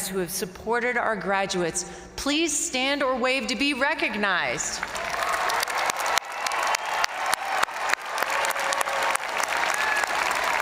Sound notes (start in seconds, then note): 4.8 crowd applauding; 4.8 crowd cheering